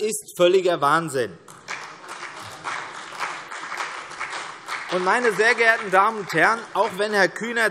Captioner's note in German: Vereinzelter Beifall CDU, BÜNDNIS 90/DIE GRÜNEN und AfD